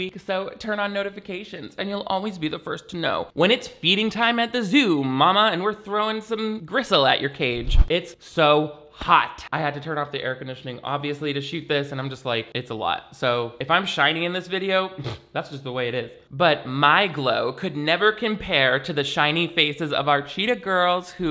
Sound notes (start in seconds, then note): 15.0 blows lips